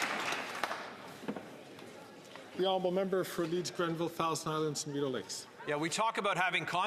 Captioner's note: some Applause